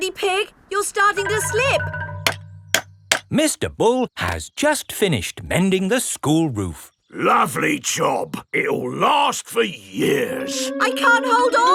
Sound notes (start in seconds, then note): 2.2 clanking